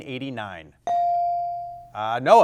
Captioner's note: buzzer chimes